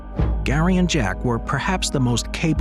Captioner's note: gentle music continues; transition whooshes